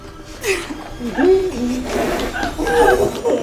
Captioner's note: laughing